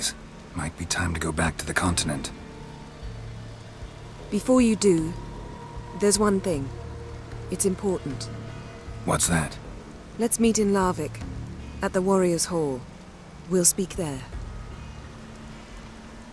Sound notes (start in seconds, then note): none